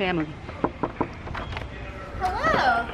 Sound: knocks on door

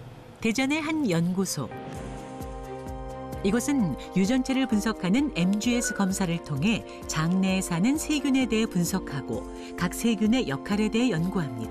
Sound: voiceover

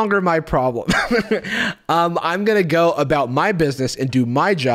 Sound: chuckles

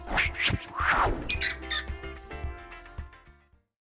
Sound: squeaking

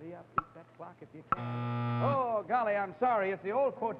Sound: buzzer sounds

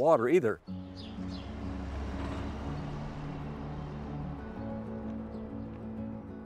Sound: truck rumbles; slow acoustic music

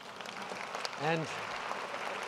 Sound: applause

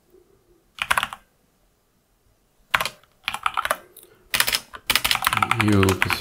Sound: blank Audio

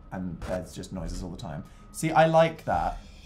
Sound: creepy static

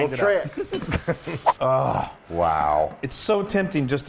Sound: laugh

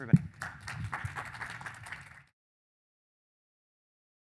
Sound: applause

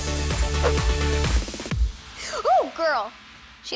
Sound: gasps

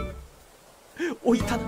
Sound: inhales again

